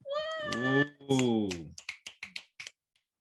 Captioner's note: applause